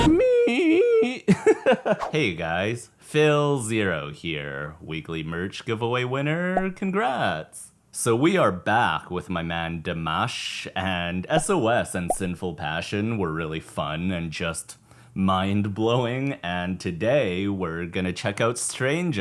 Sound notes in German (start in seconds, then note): 0.0 lacht